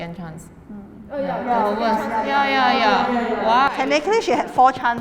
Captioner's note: agrees in unison